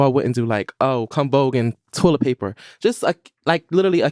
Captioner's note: none